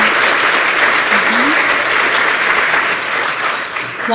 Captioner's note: applause